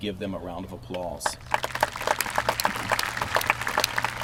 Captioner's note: applause